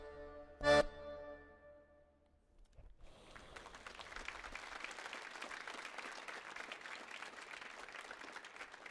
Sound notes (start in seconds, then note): 3.0 audience applauds